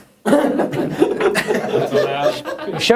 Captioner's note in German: Lachen